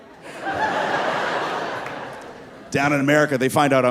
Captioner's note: audience laughing